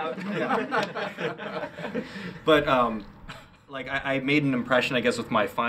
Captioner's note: laughing